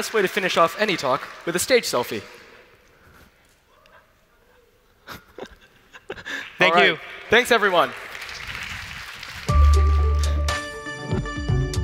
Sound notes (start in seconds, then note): 4.9 laughs; 8.4 applause